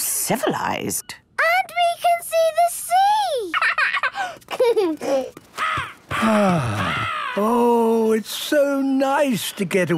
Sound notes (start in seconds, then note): 3.5 giggling; 5.6 gull squawking; 6.1 sighing